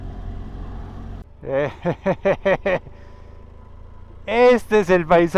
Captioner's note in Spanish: risas